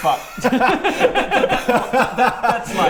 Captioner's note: nervous laughter